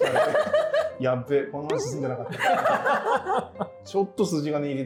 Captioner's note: laughing